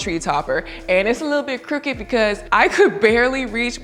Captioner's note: laughing